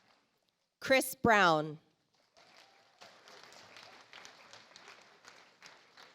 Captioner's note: audience applauds